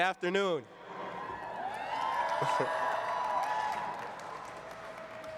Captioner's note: cheering